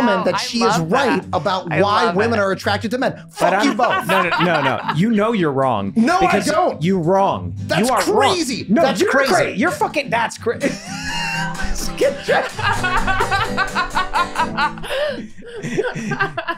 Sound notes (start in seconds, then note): 10.8 upbeat guitar music; 12.2 laughing